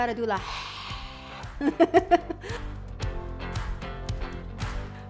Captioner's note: soft music; laughs